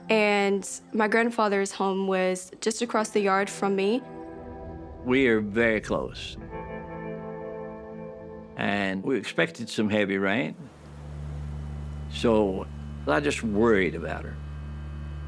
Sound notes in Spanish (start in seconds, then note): 10.6 sonido de lluvia cayendo